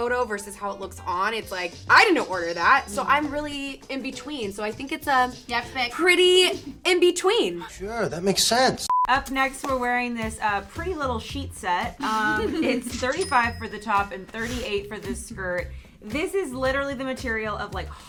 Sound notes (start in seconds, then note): 8.9 beep; 12.0 laughs; 15.2 cashier sounds